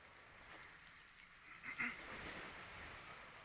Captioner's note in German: Räuspern